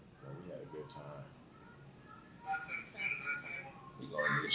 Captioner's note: radio in the background